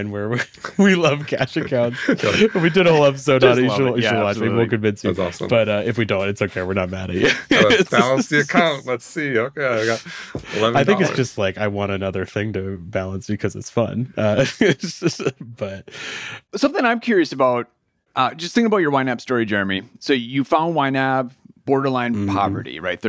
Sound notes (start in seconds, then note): 7.1 laughing; 14.3 laughs